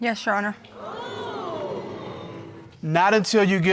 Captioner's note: crowd